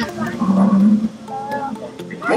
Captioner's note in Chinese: 動物低吼聲